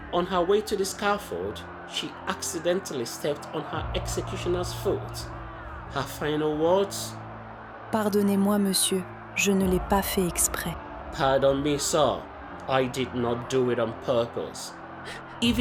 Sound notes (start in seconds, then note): 8.7 voiceover